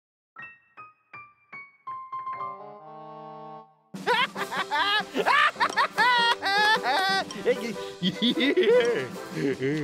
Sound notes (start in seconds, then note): 4.0 laughing